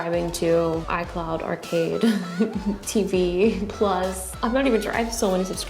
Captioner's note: laughs